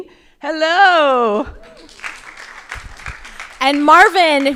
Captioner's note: crowd applauding